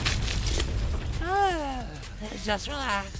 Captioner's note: yawn